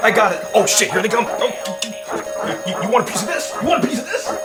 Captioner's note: robo-dogs barking